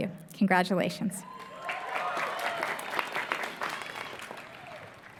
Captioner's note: applause